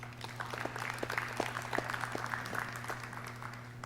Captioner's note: clapping